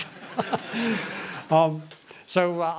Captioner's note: laughter